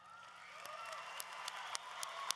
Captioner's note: applause